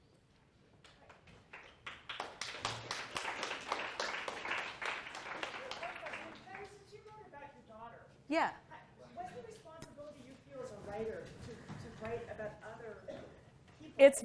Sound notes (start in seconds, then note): 0.9 applause